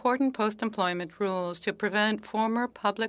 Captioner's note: speaking French